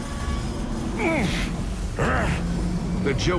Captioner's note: grunting